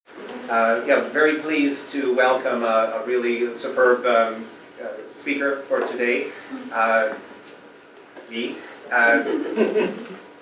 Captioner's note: audiece laughs